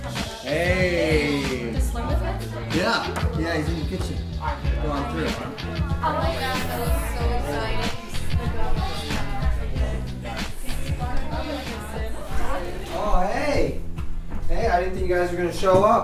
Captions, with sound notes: Heyyyy! Hey, does Sloan live here? Yeah, yeah he's in the kitchen. Go on through. *people talking* Oh hey! Hey I didn't think you guys were gonna show up.